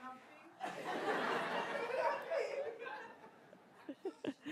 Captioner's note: attendees laughing; laughs